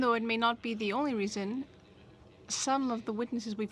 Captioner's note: speaking French